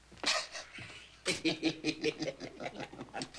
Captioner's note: laughing